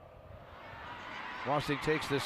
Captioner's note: crowd roaring